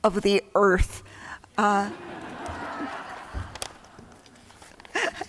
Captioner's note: laughter